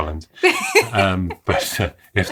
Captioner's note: laughs